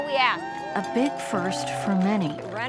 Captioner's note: crowd cheering and applauding